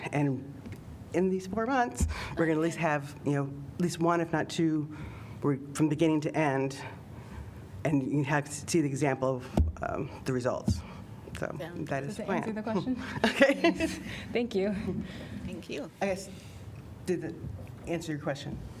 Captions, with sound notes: And in these four months, we're gonna at least have, you know, at least one if not two, from beginning to end. And in act to the example of, um, the results, so that is fine. Did that answer the question? [LAUGHTER] Thank you. Thank you. I guess, did that answer your question?